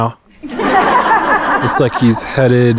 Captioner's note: crowd laughing